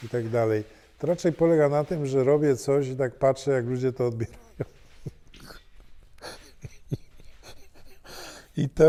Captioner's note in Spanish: risa